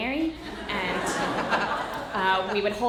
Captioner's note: audience laughter